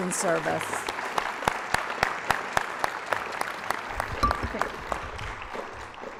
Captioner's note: applause